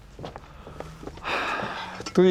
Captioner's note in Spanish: exhala